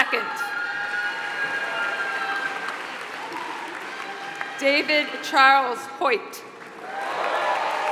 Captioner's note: applause